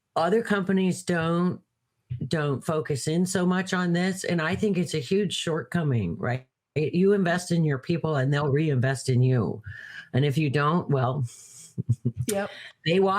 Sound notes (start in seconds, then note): 11.7 laughs